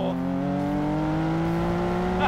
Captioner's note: engine roars